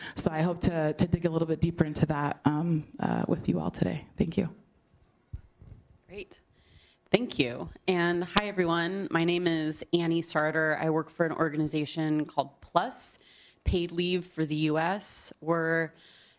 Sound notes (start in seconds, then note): none